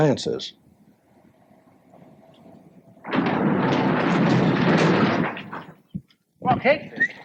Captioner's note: banging